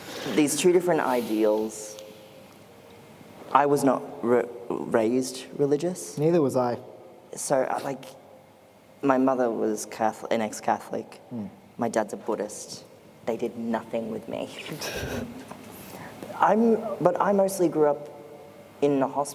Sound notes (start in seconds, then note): 11.0 laughter; 18.0 laughter